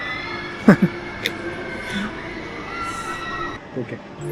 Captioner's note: screams of terror echoing everywhere